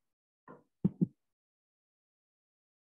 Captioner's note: thud; silence